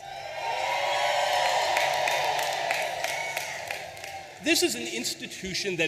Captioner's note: audience applauding and cheering